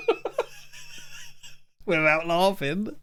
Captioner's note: laughing